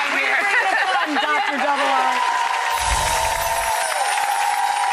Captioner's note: audience cheers